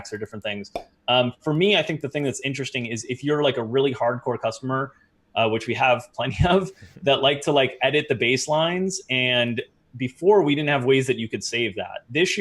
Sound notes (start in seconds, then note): 6.3 chuckle